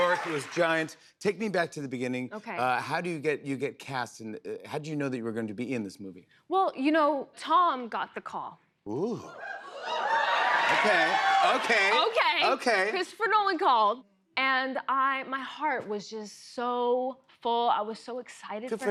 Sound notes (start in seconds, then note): 9.8 cheering